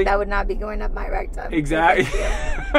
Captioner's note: laughing